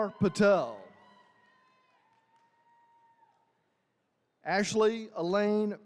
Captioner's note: attendees cheering